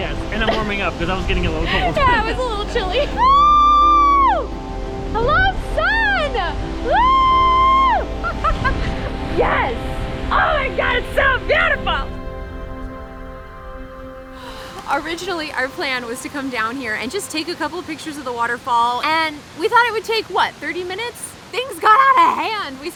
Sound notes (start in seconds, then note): 8.2 laughs